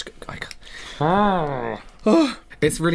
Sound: gagging Noises

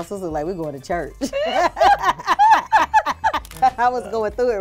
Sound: laugh

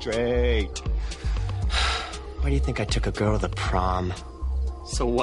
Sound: sighs

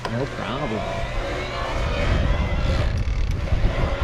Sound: whirring

